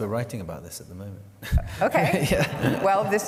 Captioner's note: laughter